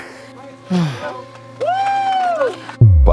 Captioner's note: screams